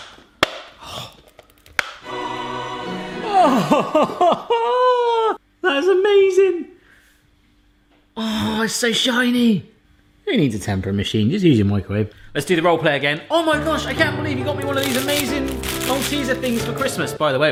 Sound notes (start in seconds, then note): 0.7 gasps; 3.2 laughs